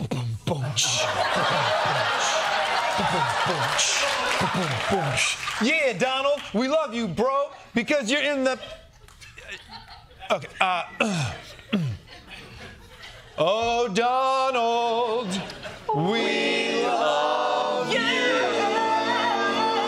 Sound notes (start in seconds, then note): 0.1 beatboxing; 11.6 clearing throat